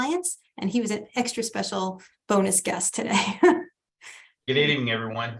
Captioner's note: chuckles